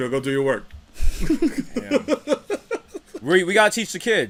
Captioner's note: laughter